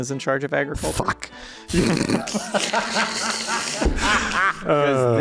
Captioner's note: laughs